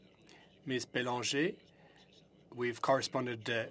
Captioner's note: speaking French